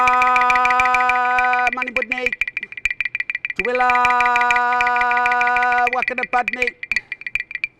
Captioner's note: in Kaurna language